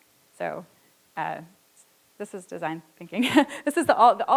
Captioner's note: laughs